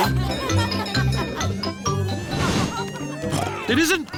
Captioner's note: cheerful jingling; oinks